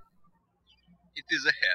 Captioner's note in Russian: птички щебечут